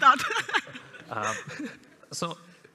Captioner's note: laughs